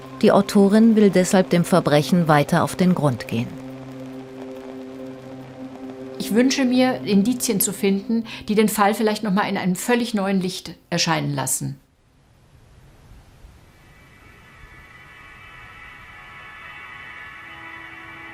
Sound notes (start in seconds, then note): 12.4 whispering Wind